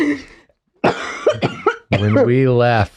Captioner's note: laugh; cough